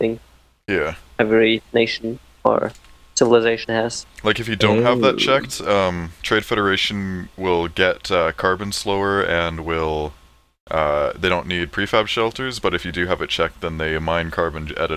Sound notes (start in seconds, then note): 4.6 ohh